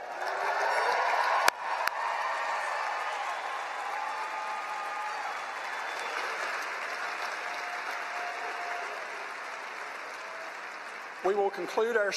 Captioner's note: loud cheering and applause